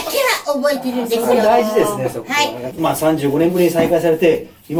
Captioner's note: laughs; laughs